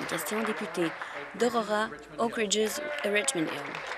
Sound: applause

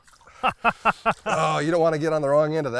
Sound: laughs

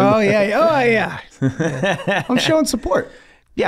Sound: Glen chuckles

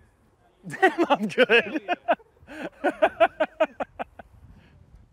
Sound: laughs

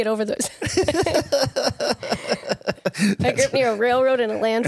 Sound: both laugh

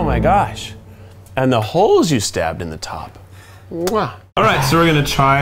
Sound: kissing

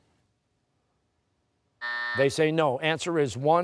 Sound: buzzer

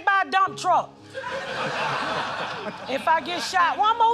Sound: laughter

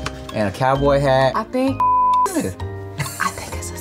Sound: beep

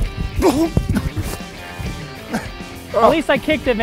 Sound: grunting

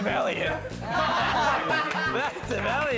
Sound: laughing

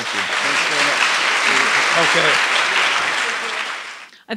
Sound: applause

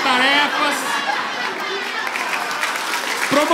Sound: applause

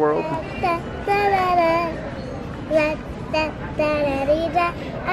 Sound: babbles

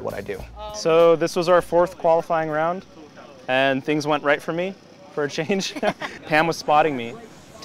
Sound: laughs

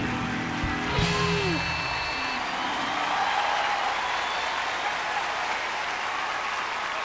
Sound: cheers and applause

